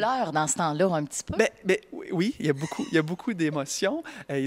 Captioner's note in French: rires